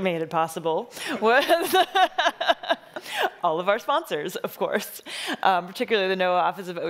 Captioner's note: laughing